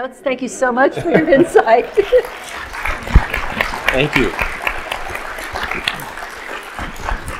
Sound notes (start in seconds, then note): 1.1 audience clapping; 5.1 audience clapping continues